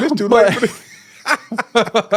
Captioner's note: laughing